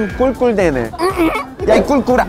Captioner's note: oink oink